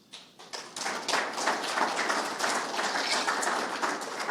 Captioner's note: audience applauds